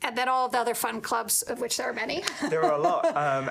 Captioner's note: laughing